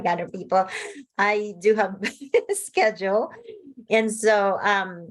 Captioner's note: laughs